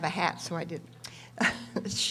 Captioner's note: laughs